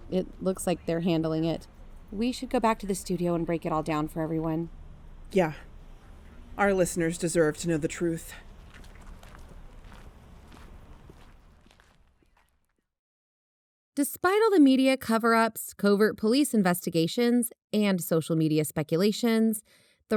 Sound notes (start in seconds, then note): 8.6 they walk, ambience fades